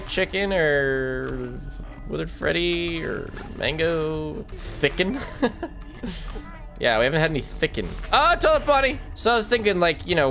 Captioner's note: laughs